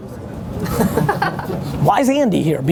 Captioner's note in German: Lachen